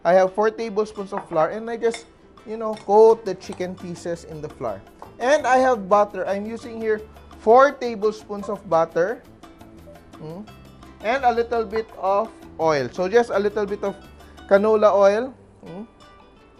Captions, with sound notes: I have 4 tablespoons of flour, [Clang] -- and I just, -- you know, -- [Clink] coat the chicken pieces in the flour. And I have butter. I'm using here -- 4 tablespoons of butter. Mmm... And a little bit of -- oil. So, just a little bit of -- Canola oil. Mmm...